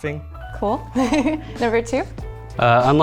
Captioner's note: chuckles